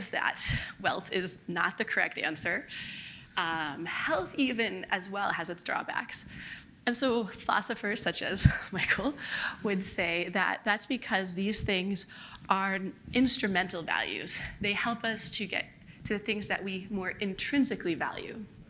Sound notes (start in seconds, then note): none